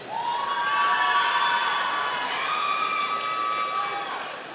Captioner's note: audience cheering